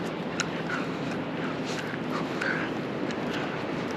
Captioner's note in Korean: 껌 씹는 소리 죄송